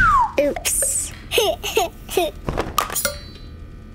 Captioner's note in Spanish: risas